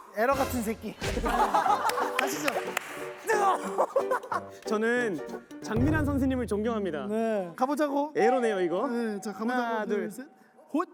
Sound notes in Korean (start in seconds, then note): 3.0 뜨헣